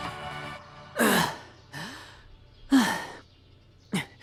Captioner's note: heavy breathing